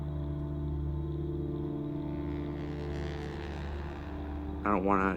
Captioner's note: airplane hums overhead